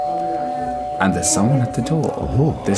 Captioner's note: doorbell